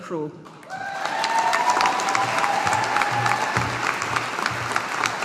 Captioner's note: audience applauding